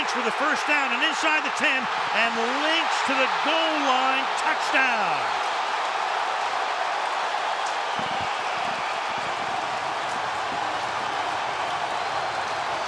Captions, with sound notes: And Lynch with the first down and inside the 10. And Lynch to the goal line, touchdown. [cheering]